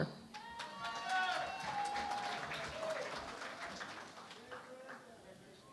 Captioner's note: cheering and Applause